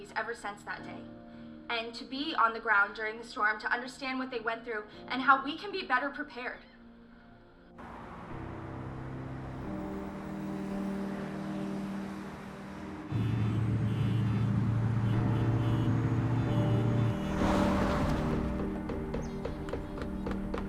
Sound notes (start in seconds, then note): 13.0 horns honking; 13.0 thunderclap